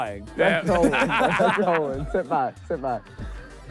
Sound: laughing

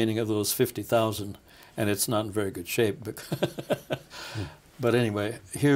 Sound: laughing

